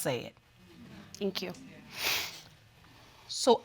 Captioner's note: sniffs